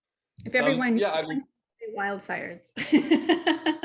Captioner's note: laughs